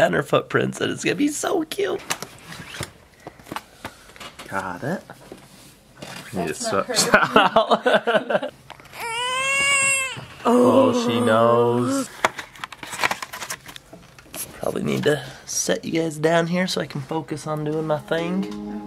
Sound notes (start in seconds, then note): 6.9 laughter; 8.9 baby Crying